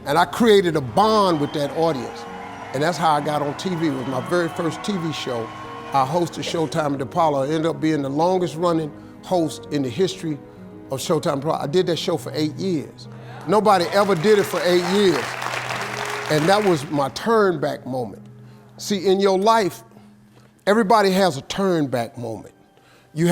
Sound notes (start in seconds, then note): 13.4 audience clapping